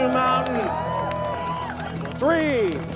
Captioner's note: applause, cheering